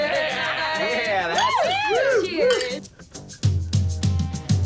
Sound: bottles clank; upbeat music

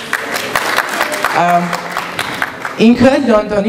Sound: applause

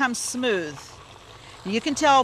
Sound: blender whirring

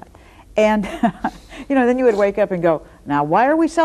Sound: laughs

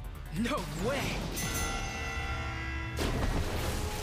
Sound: dinging

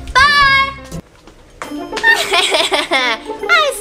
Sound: evil laughter

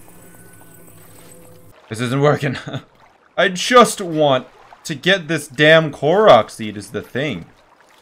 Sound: laughs

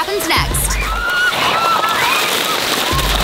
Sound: screaming

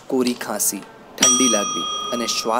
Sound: bell ringing

